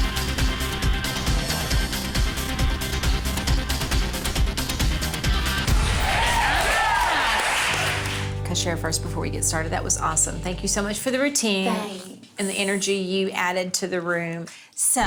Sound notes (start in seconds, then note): 5.7 applause